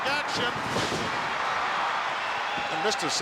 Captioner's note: crowd cheers